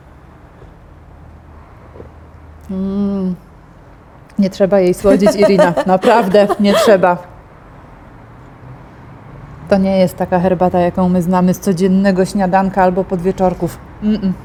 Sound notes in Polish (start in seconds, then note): 7.6 śmieje się